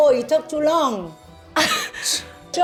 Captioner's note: laughs